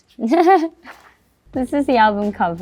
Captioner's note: laughs